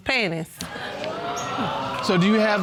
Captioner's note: audience exclaims